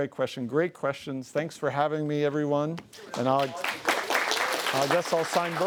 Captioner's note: audience applauding